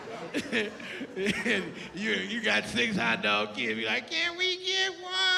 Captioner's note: laughs